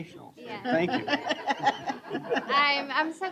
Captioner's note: laughter